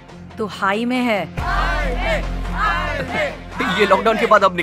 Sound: all chanting; chuckles

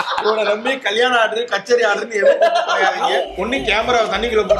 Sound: laughs

